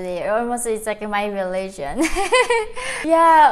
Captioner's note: laughs